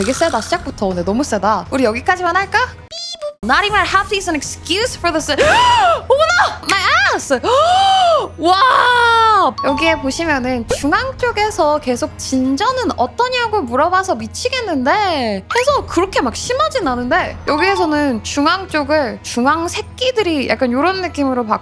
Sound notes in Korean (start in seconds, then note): 8.4 비명